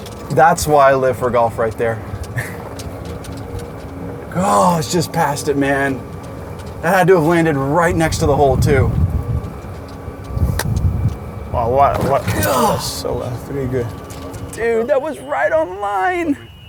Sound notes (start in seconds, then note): 11.1 indistnct Chatter; 11.9 grunts